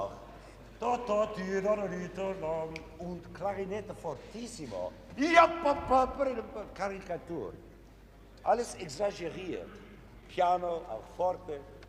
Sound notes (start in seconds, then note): 3.6 speaking foreign language